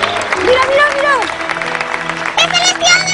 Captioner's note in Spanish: aplausos